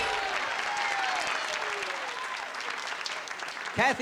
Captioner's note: applause